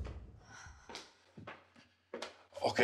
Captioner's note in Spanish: suspiros